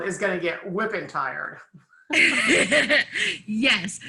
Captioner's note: laughs